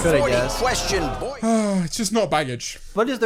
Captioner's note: sighs